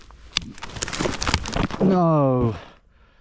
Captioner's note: branch snaps